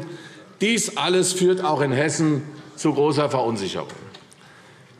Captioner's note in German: none